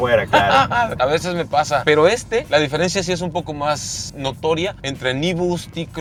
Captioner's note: laughter